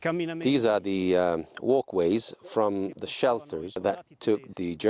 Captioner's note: voiceover